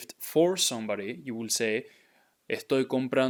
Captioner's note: speaking in Spanish